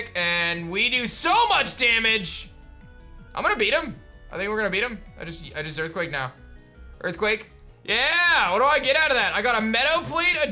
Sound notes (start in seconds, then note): none